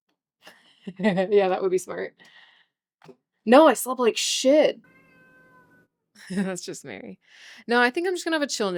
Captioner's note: meow